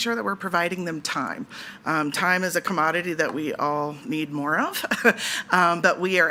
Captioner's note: chuckles